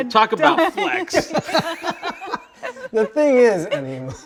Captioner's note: both laughing